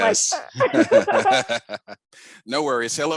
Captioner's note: laughs